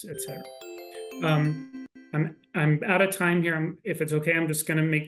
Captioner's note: gentle electronic tones